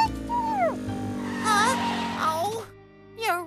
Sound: motor Purring; tires Screech

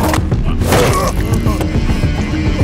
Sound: slams

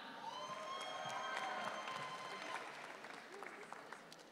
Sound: audience cheering

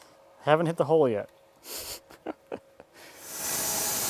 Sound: laughs

